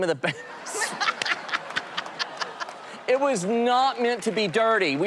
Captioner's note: laughter